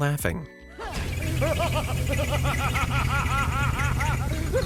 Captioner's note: Big Boss laughing